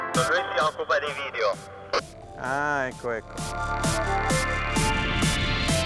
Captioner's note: radio chatter in foreign language; funky music